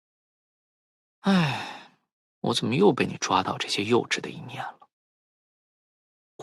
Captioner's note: sigh